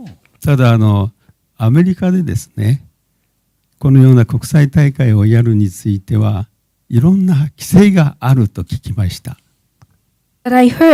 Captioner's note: speaking japanese